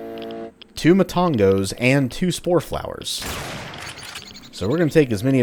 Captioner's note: bam